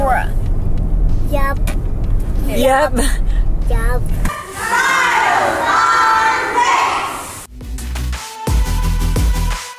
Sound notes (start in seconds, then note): 4.2 children shouting; 7.5 upbeat music